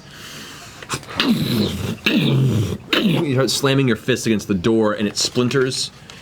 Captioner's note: punching sounds